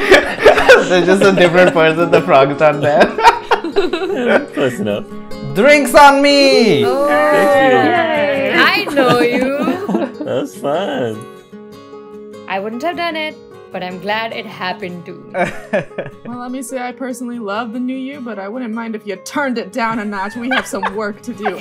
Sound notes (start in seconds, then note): 2.8 laughter; 6.9 all cheering and chattering; 15.3 laughter